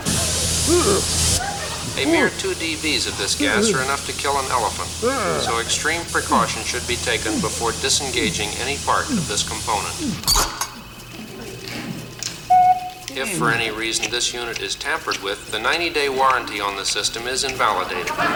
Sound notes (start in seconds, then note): 0.1 pipe hissing; 5.2 Muppet groans; 12.5 beep